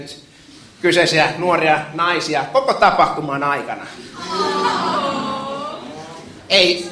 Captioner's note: audience: Aawwww